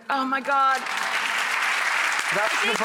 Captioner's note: clapping